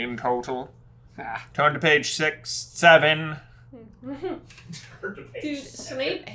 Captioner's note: team chuckles